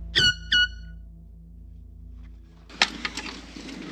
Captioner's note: air horn blowing